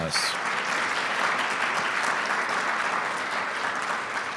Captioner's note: audience clapping